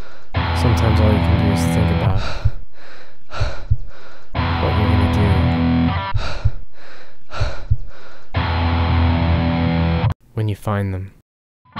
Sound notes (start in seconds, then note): 0.0 heavy breathing; 2.0 heavy breathing; 6.0 heavy breathing